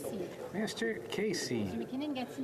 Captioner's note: speaking French